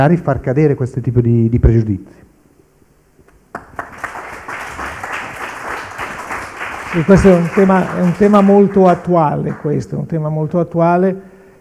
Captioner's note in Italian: Applauso